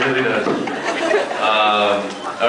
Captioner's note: laughs